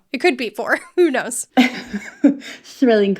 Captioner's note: laughing